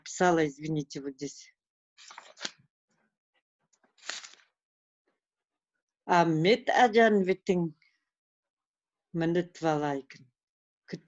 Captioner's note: speaks her native language